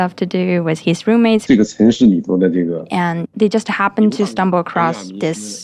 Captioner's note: speaking Mandarin Chinese